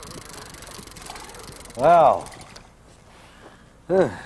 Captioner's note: rattling